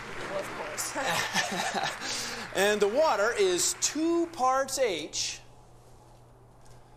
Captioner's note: laugh